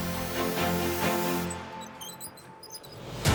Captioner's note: wheel squeek